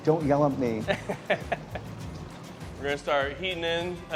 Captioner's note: chuckling